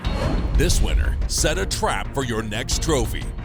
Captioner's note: voiceover